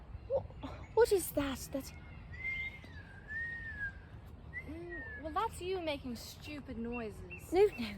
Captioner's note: whistles